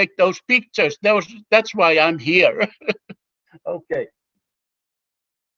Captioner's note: chuckles